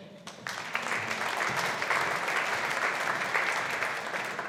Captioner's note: audience applauding